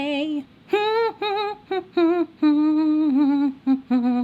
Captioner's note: humming